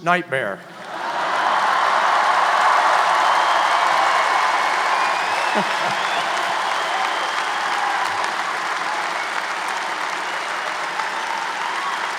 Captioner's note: applause